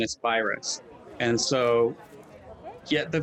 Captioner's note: people chattering